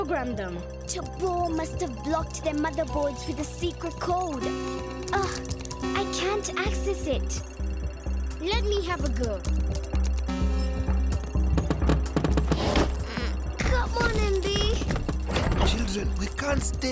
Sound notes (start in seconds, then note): 3.5 chiming; 10.2 chimes; 11.5 thudding